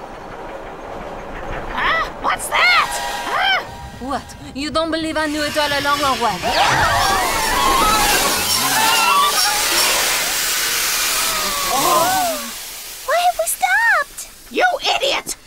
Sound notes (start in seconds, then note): 0.2 train clacking; 7.0 yells and train screeching